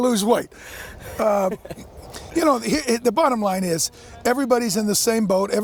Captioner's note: laughs